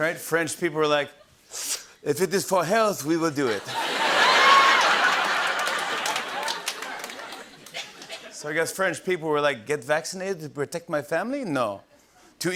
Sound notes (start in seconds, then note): 3.5 laughter and applause